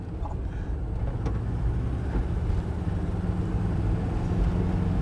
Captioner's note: engine whirring